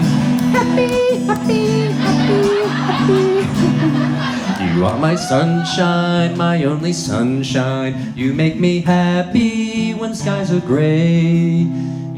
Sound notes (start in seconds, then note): 3.2 audience laughs